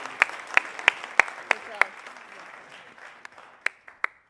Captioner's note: applause